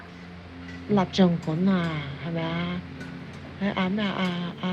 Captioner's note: Cantonese